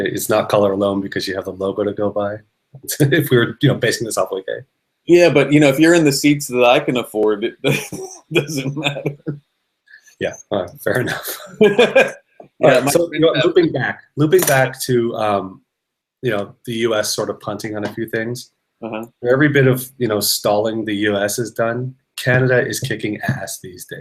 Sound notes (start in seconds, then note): 10.2 laughing